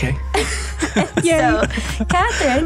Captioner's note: all laughing